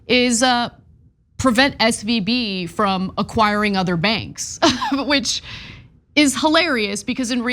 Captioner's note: laugh